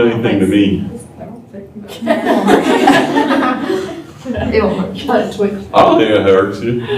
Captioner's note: laughter